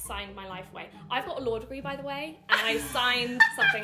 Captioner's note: laughing